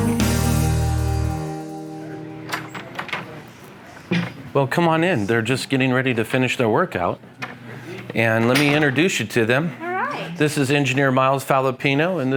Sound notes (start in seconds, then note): 0.0 easygoing music; 2.4 door opening